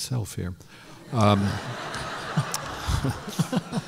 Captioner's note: laughter